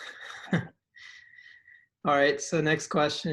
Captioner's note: chuckles